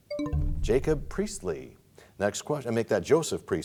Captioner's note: bell chimes, time expires